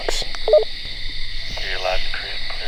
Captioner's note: walkie beeps